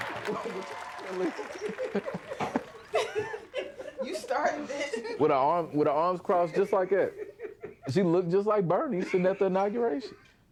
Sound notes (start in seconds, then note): 0.1 laughing